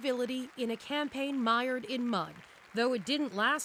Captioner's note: applause